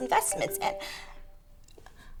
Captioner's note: phone ringing